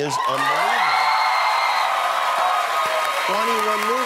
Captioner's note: applause